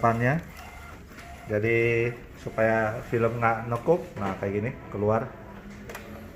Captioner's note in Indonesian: suara mesin printer